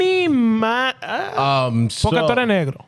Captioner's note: speaking In Foreign Language